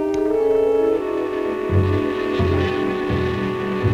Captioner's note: buzzing